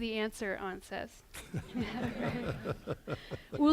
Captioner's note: laughing